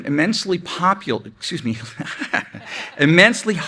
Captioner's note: laughs